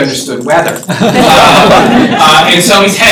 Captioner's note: laughter